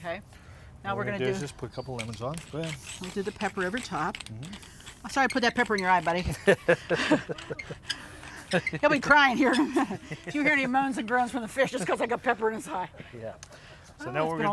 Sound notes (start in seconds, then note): 6.2 laugh